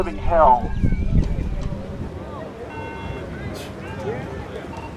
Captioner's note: chanting in the background